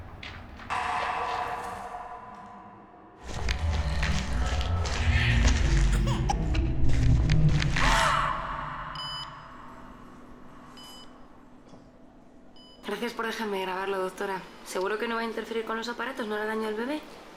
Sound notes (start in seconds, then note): 0.7 loud bang; 5.8 baby cries; 7.8 woman screams